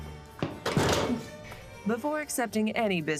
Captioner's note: man slams